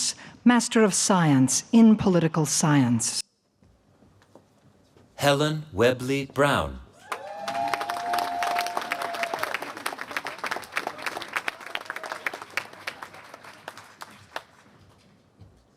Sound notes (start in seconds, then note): 7.0 applause